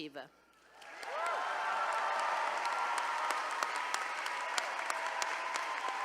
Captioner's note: attendees cheering and applauding